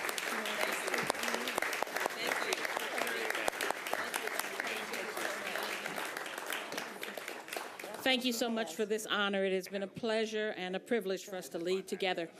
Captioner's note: applause